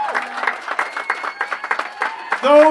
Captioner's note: applause